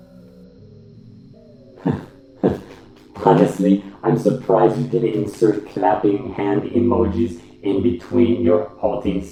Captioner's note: chuckles